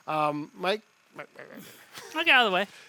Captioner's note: grumbles